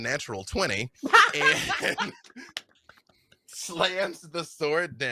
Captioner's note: laughs